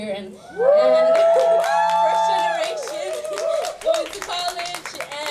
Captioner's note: audience applauding